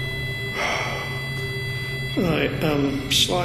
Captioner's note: sustained beeping; sighing heavily